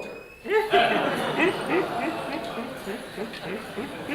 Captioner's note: laughter